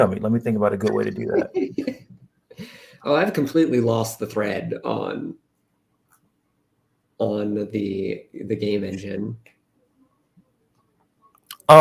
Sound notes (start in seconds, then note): 1.1 laughter